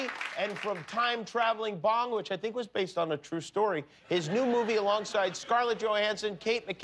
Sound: cheers and applause

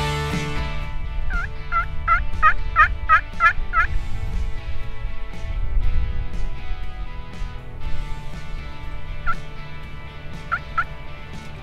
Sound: turkey call noise

